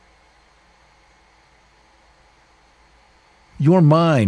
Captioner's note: white noise